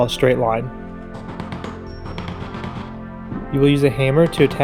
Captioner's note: soft hammer pounding